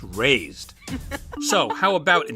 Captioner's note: baseball laughs